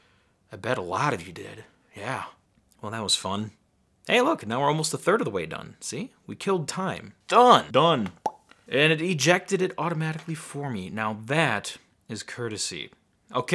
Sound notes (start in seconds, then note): none